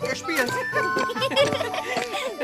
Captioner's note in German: Lachen